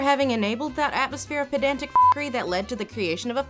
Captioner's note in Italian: beep